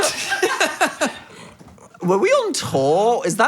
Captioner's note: group laughing